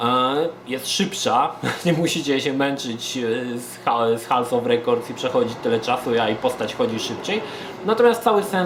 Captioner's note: chuckles